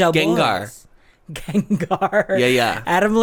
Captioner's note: laughs